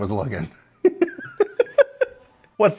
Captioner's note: laughter